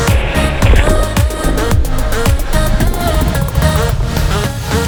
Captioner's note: water splashing